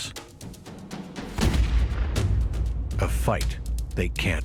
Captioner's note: gun fires